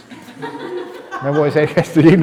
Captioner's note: laughter